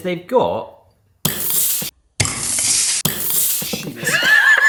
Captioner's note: soda spraying; laughing